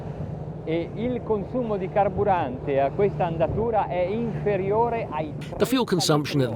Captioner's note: speaking in foreign language